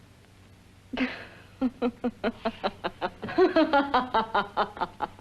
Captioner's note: laughs